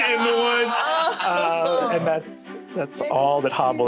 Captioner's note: casts aww's and celebrates